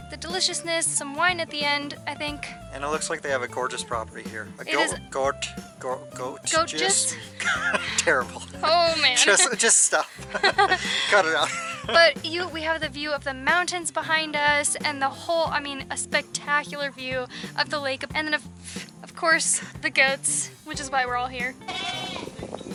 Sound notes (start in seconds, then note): 8.9 laughter